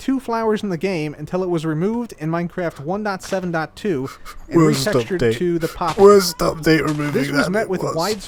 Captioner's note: crying